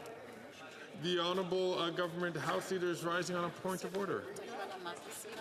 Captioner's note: speaking French